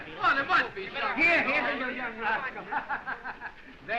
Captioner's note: laughing